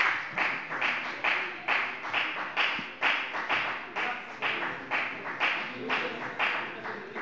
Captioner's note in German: Beifall bei der FDP